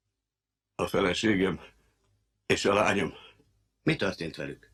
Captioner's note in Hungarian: nyögve